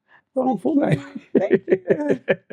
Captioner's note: laughing